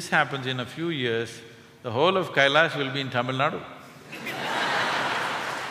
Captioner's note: laughter